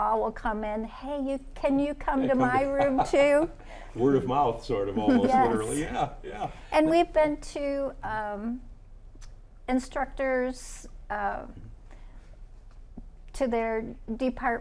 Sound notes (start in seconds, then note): 2.2 laughs